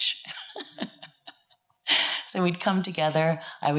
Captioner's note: laughs